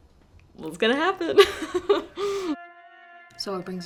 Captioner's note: laughs